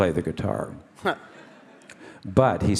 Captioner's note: Ariel chuckles